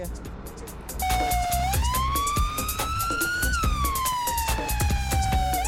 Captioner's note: ambulance sound